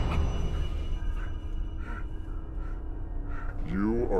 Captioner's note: panting